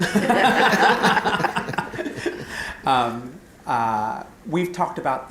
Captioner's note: laughter